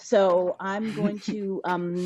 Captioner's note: laughs